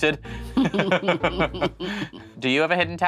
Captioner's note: Sharon chuckles